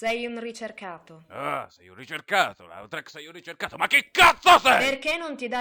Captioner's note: mocking